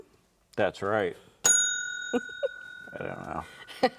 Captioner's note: bell dings; chuckles